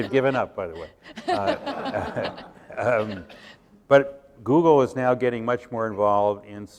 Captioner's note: laughter